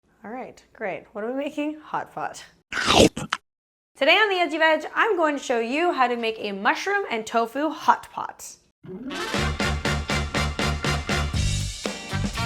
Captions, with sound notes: - Alright great, what are we making? Hot pot. (chomps) Today on the Edgy Veg I'm going to show you how to make a mushroom and tofu hot pot. (upbeat instrumental music)